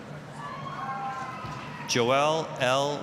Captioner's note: applause, cheering